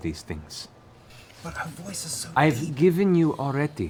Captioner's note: whispers